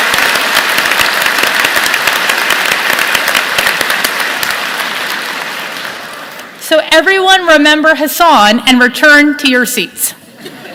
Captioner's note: applause